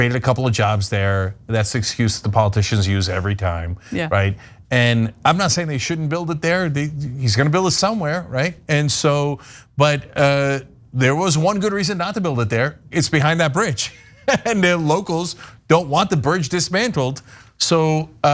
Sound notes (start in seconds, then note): 13.9 laugh